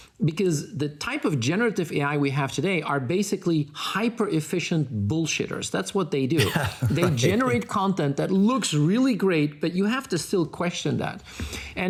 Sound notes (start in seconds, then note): 6.4 laughing